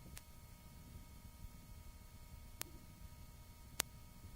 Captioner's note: clicking; click; clicking